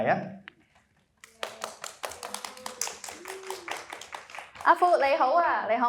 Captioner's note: applause